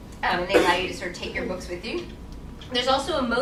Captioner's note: coughing drowns out speaker